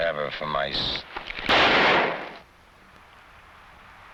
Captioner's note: gun blasting